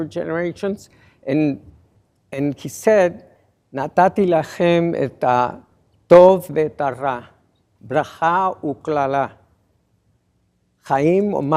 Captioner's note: non-english speech